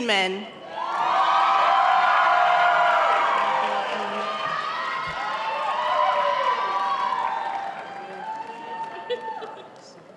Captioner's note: applause